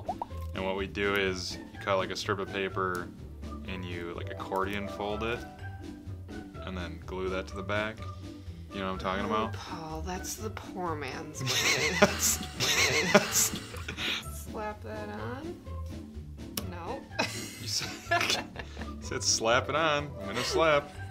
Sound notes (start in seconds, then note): 11.4 weird laugh; 17.2 laughs